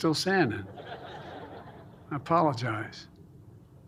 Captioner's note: laughter